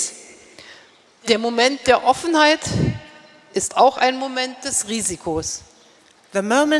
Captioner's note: speaking in German